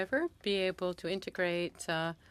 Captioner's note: speaking French